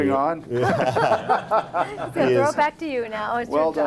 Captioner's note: laughing